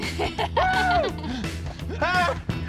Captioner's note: laughing